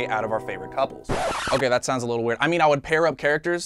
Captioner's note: record scratch sfx